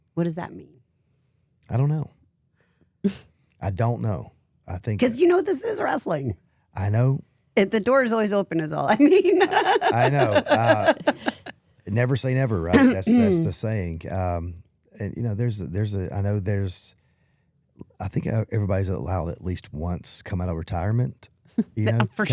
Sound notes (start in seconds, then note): 3.0 Stephanie giggles; 8.9 Stephanie laughs